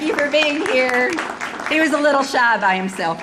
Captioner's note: audience applauding